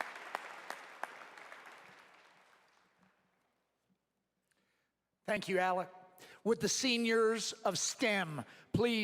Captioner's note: applause